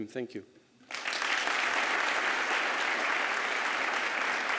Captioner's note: applause